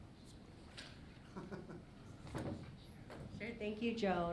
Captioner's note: laughing